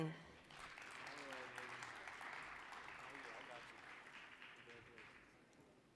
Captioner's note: applause